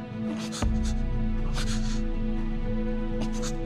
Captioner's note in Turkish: Mehmet Ali inliyor